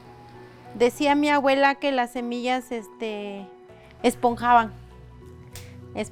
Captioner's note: speaking foreign language